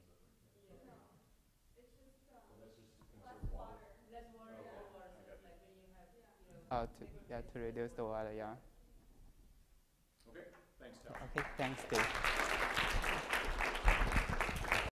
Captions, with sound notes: - I see. That will be for a while, yeah. - Okay. Thanks sir. - Okay. Thanks too. (audience applause)